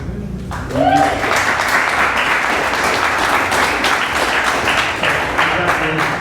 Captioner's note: applause